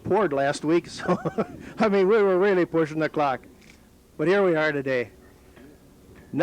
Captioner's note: laughs